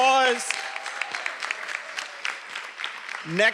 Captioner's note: everyone applauding